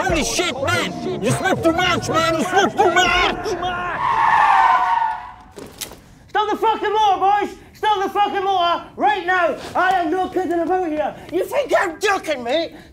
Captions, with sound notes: Holy shit man you smoked too much, man you smoked too much! [tyres screeching] Stop the fucking motor boys! Stop the fucking motor right now! I am not kidding about here, you think I’m joking mate? Here we go